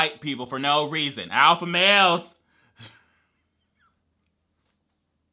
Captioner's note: whispering quietly